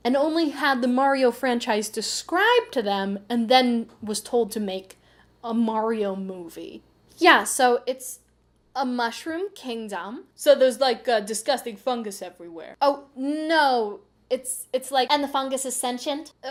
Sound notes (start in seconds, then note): 7.1 producer voice; 10.2 male new yorker voice; 12.7 producer voice